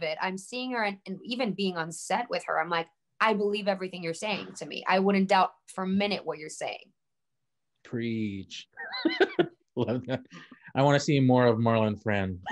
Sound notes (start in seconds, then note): 8.7 laughing; 12.3 laughing